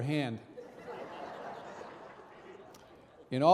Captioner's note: audience laughing